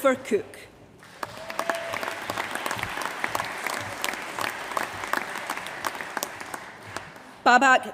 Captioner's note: applause